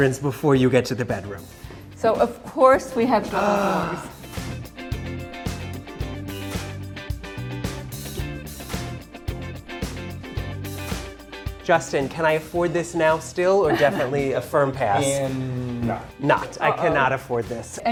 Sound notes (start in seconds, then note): 3.8 gasps; 4.7 upbeat music continues